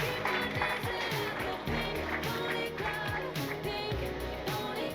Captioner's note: audience applause